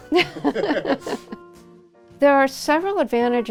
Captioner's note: laughter